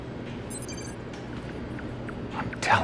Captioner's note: monitor bleeps